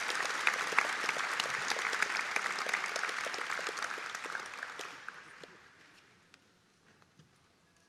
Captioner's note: audience Applause